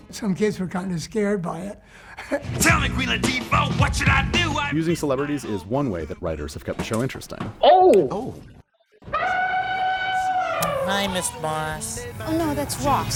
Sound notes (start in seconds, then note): 2.1 laughs; 9.1 elephant roar